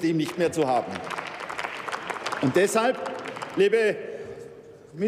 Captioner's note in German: Beifall bei der SPD und dem BÜNDNIS 90/DIE GRÜNEN